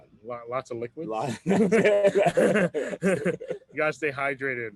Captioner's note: laughs